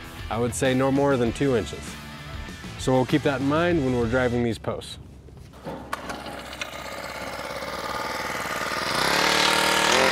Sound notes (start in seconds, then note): 5.5 machine rumbling